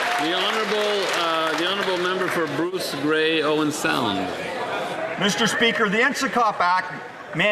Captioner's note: some Applause